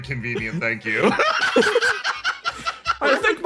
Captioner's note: laugh